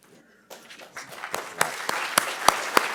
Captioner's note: applause